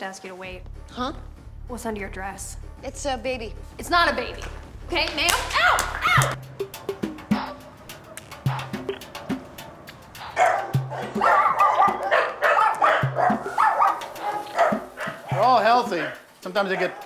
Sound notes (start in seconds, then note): 10.1 barking